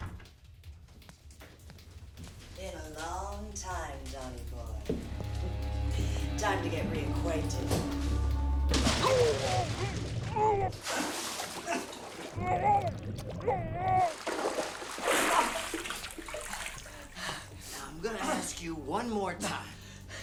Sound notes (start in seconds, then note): 8.9 Don struggles; 9.2 water bubbles; 11.3 water splashes; 13.4 Don struggles